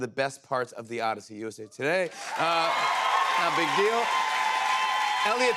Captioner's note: cheers and applause